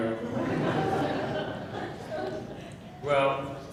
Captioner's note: laughing